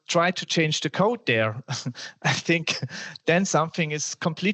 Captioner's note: laughter